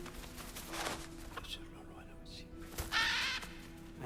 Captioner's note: whispering; caw